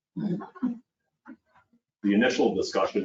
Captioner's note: people chuckling